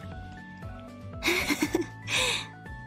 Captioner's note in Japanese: 笑い声